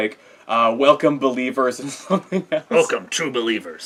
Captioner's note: laugh